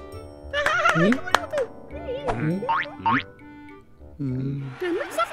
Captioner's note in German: cheerful gebrabbel; crowd jubelnd